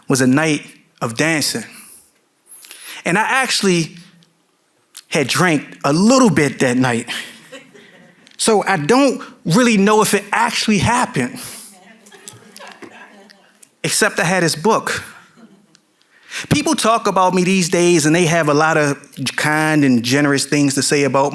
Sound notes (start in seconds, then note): 7.0 audience members chuckling; 12.0 audience member laughing